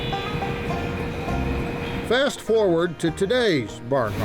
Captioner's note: machines whirring